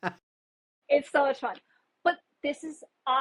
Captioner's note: laughs